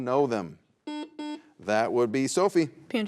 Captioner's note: buzzer buzzes